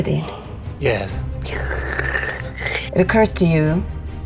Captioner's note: slurps